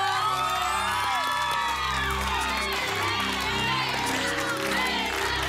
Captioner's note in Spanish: Gritos y exclamaciones